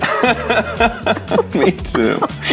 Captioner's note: laughing